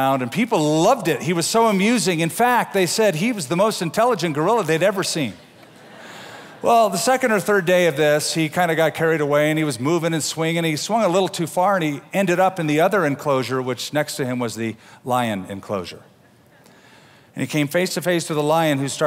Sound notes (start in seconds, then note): 5.5 laughter